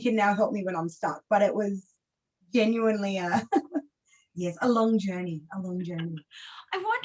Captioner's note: laughs